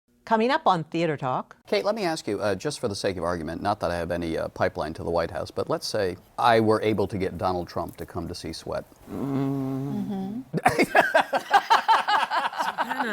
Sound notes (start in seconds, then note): 9.0 grumbles; 10.6 laughter